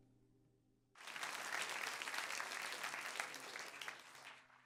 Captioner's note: applause